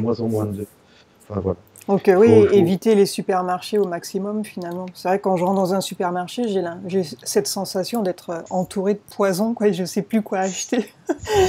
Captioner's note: laughs